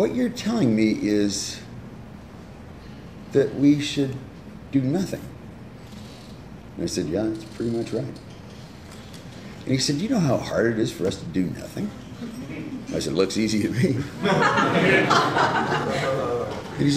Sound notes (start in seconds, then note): 14.0 laughter